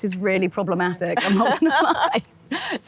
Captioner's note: all laughing